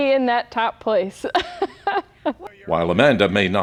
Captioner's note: laughs